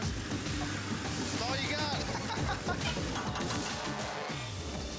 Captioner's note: laughing